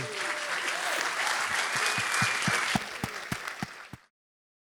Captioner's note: applause